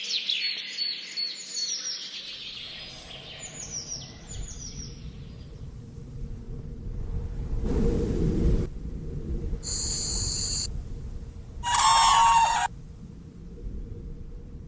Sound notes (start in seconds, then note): 9.6 insects chirping; 11.6 birds squawking